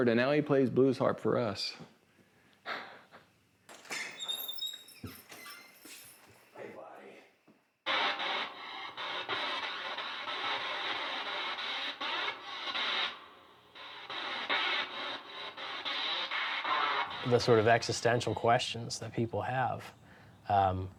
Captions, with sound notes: and now he plays blues harp for us. (chuckles) (distorted music) - The sort of existential questions that people have,